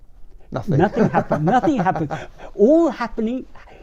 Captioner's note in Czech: smích